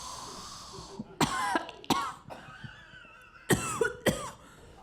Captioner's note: Sarah coughs